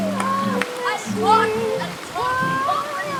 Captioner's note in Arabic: صراخ غير واضح